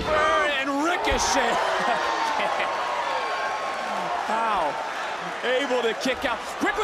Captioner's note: chuckles